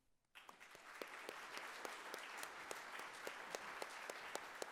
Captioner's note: audience applauding